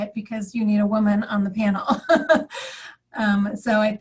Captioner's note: laughs